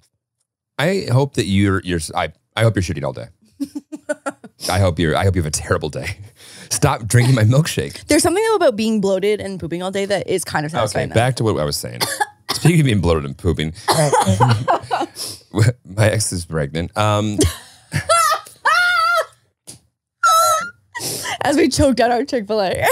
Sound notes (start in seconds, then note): 3.6 laughing; 17.2 laughing